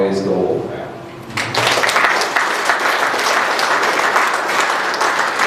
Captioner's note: applause